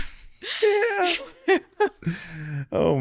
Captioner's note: laughing